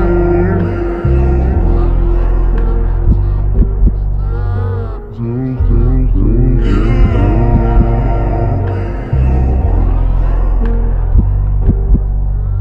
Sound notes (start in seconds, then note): 4.7 echoes